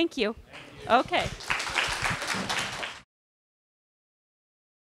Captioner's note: applause